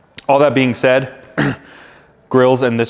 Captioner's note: clears throat